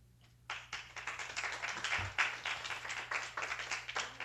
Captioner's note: applause